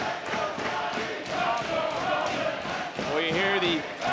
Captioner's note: crowd chanting